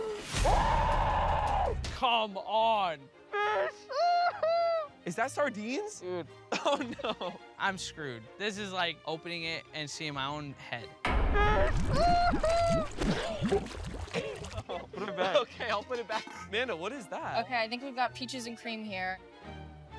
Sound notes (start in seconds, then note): 0.0 screaming; 3.7 laughing; 11.4 crying